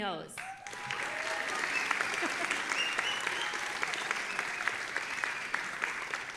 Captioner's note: audience applauding and cheering